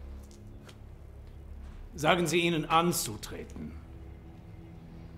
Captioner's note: Von Rohr speaking in German